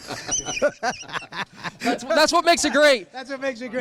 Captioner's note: laughs